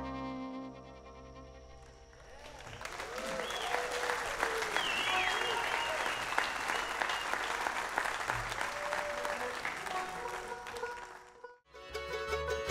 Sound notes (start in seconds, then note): 3.1 audience cheers